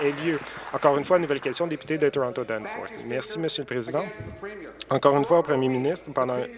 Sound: applause

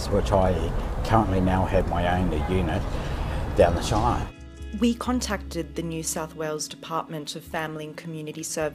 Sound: voiceover

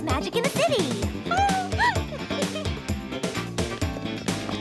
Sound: giggling

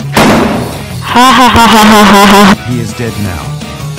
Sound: Aiden.EXE laughs

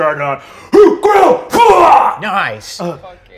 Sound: Ragh yells

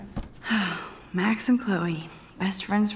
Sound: Max sighing

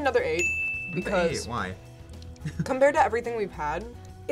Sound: laughs

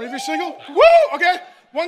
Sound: congregant cheering

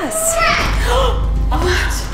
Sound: gasping

